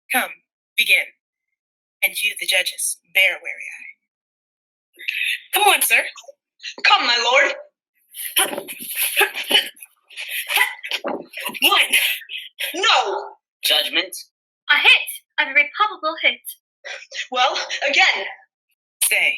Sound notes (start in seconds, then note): 8.5 grunting